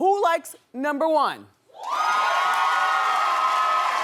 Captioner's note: cheering